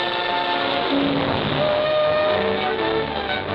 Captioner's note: steam whistle blowing